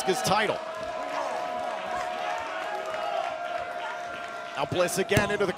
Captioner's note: crowd cheering